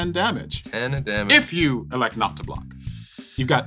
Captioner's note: sucks air through teeth